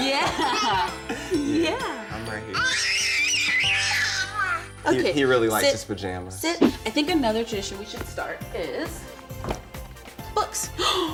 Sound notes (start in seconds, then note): 2.5 baby screams